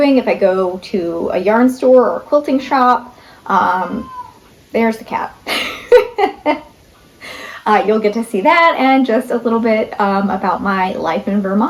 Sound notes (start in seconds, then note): 3.6 cat meows; 5.4 laughs